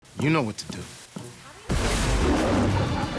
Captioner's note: televisions scratching; explosion; lion roaring